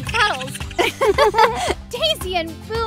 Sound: girls laugh

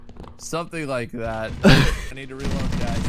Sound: laughs

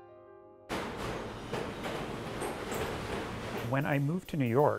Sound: train clacking loudly

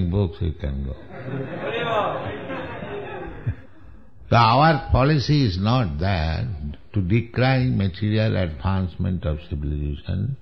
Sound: laughter

